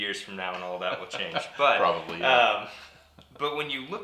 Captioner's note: laughs